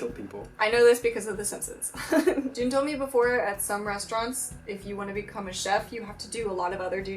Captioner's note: laughs